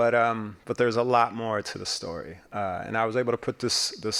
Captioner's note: none